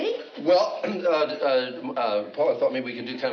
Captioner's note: stammers